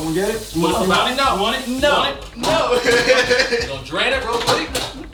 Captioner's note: laughing